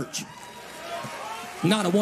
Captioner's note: audience cheering